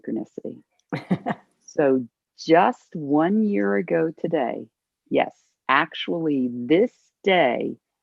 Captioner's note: laughter